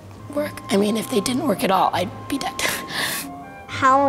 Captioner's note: chuckles